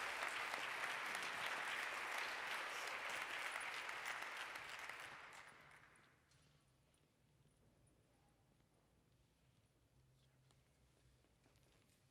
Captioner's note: applause